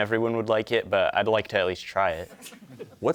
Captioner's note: audience chuckling